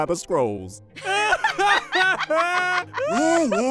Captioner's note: both laughing